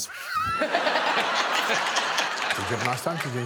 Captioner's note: all laughing